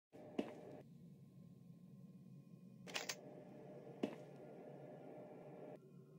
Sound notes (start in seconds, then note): 0.3 walking on Metal